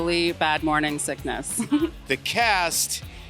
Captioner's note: laughs